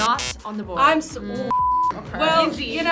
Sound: beep

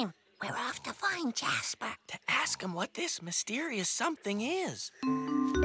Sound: whispers

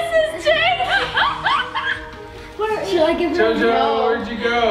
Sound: laughs

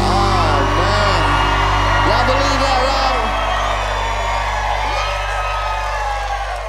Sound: gentle upbeat music; audience cheering

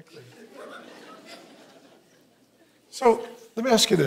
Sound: congregants giggling

